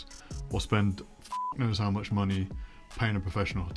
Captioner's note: beep